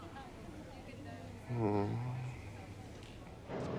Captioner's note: moan